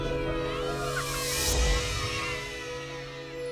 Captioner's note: kids cheering